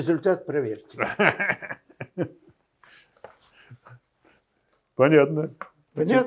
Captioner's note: laughing